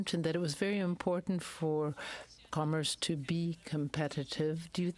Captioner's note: speaking French